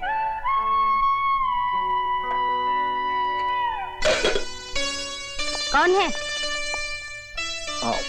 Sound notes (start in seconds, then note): 4.0 thud